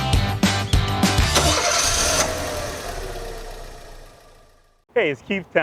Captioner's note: car ignition turning on